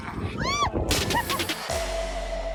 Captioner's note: giggle